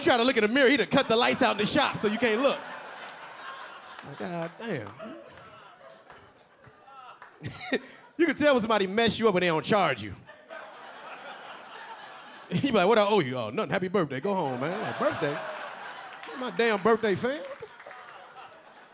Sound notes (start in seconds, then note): 2.5 audience laughing; 7.4 LilRel laughing; 10.3 audience laughing